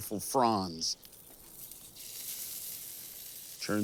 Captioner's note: meat sizzling